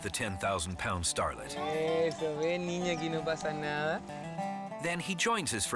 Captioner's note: speaks in foreign language